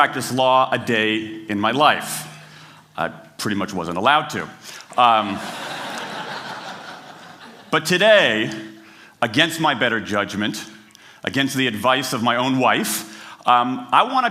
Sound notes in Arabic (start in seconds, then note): 5.3 ضحك